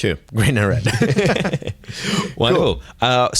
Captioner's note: laughter